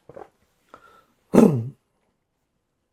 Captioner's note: clears throat